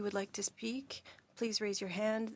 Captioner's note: speaking French